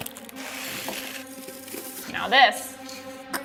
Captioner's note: crunching; suspenseful music